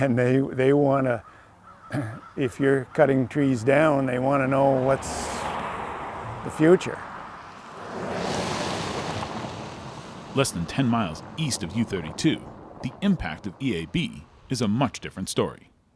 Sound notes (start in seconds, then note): 0.0 exhaling; 7.0 car motor whizzing